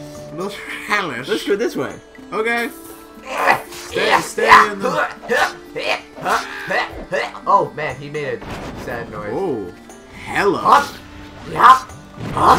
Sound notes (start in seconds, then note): 3.1 gutteral heaves